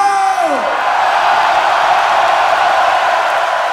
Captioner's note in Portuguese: Gritos